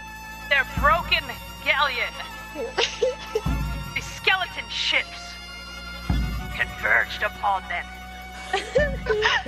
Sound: laugh

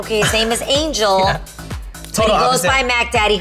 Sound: laughs

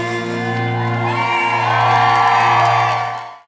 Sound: audience cheers

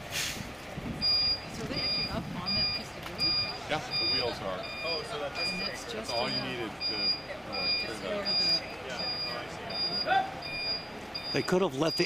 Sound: beeping

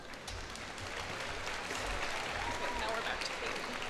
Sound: cheers and applause

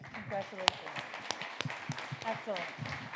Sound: audience and panel members applaud

